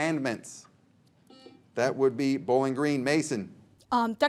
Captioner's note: buzzer beeps